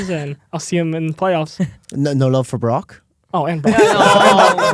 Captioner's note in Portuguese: risos